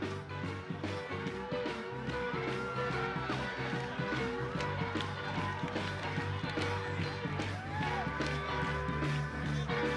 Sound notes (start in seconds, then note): 0.0 upbeat rock music; 0.4 people cheering